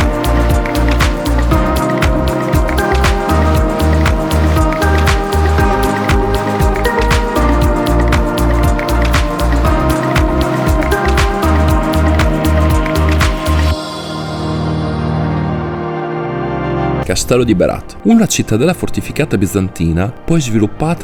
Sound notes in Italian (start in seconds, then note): 7.3 Applauso